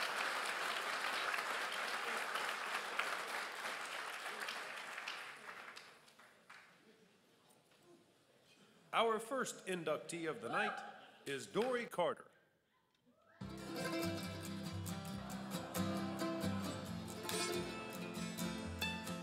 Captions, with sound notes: - [Voiceover] Our first inductee of the night is Dori Carter. (guitar strumming)